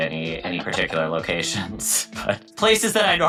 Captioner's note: laughing